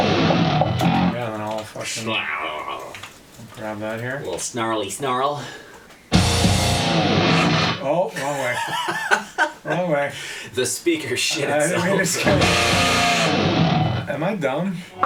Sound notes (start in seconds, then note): 1.8 imitates guitar; 8.2 laughs